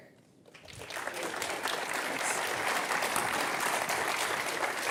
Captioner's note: audience clapping